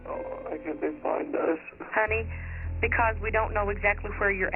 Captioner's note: on phone